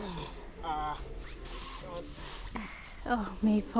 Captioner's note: groans